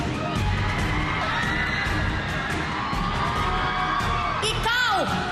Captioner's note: audience cheering